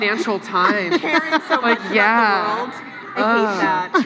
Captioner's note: laughs